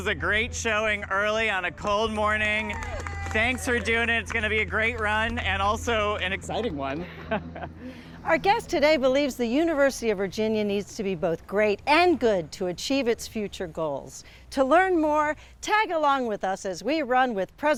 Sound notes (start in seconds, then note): 2.1 crowd cheers; 7.0 laughs